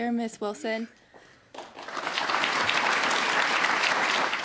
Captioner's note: applause